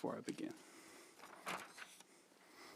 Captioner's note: page turning